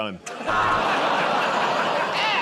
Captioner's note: buzzer